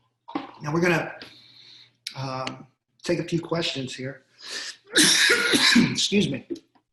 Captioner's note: coughing